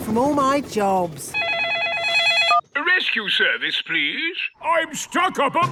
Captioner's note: phone ringing